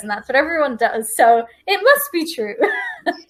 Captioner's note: laughs